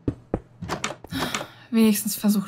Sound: sigh

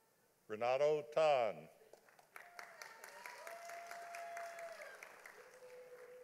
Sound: audience applauding

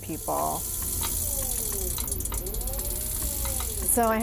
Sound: machine whirring

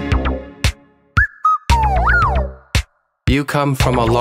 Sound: chirping

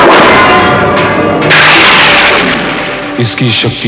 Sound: thundering

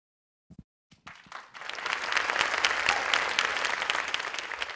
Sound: audience applauds

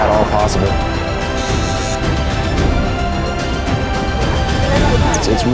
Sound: needle buzzing

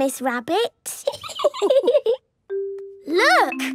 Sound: laughing

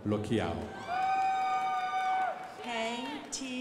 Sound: crowd applauding

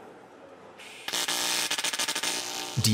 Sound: whirring

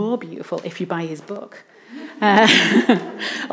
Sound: laughs

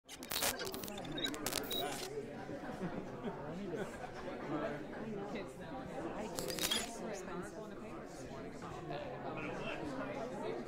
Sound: crowd speaking

